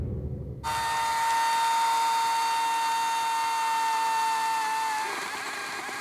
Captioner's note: chainsaw buzzing